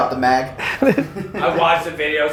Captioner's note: guys laugh